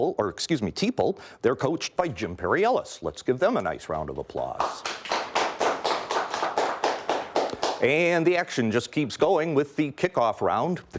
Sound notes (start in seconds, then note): 4.6 audience applauds